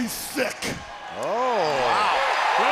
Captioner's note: crowd cheering